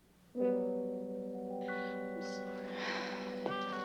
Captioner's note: quietly